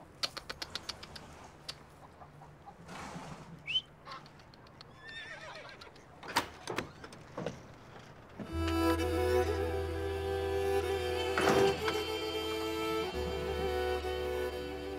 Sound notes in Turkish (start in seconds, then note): 0.1 Ağzıyla Sesler Çıkarıyor; 3.6 Islık ve Ağız Sesleri; 6.2 Kapı Açılıyor